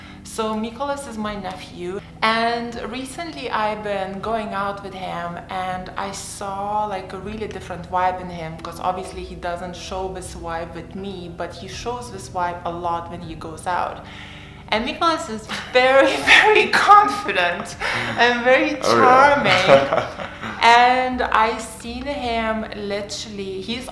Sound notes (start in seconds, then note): 17.4 laughter